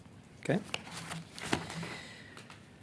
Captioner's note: speaking French